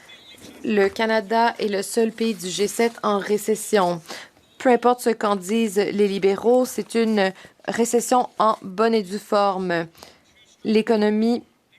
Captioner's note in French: voix de l'interprète